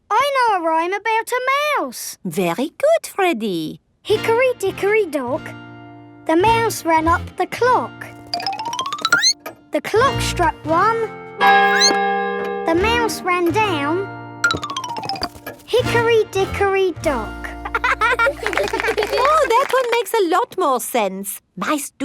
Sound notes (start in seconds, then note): 11.6 squeaks; 11.6 clock chimes; 17.6 laughing